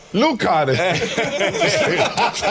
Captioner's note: Salvy speaks Spanish; all laughing